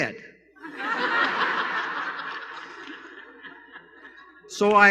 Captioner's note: laughter